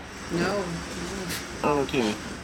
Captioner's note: laughing